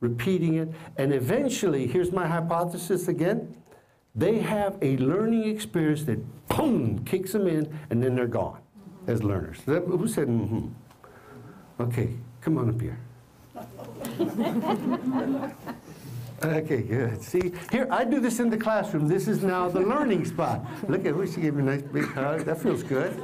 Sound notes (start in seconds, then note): 13.5 laughter